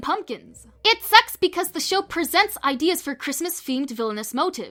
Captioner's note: none